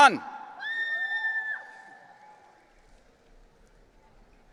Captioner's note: audience cheering